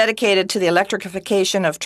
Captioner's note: speaking in French